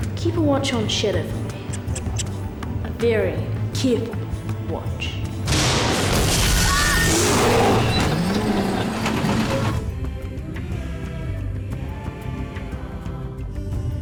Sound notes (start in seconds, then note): 5.9 roaring; 10.4 dramatic music